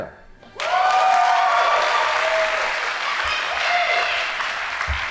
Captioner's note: audience applauding